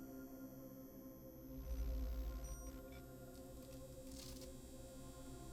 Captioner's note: digital whirring and beeping